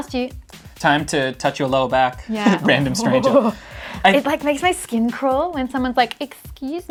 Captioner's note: uuuuugh